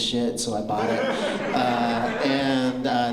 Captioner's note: laughter